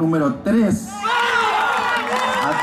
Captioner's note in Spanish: Aplausos